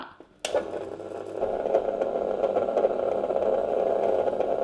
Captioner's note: ice cream maker whirring